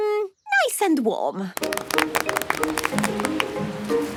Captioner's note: applause